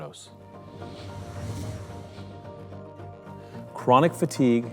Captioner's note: whooshing